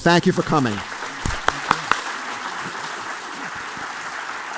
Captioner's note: applause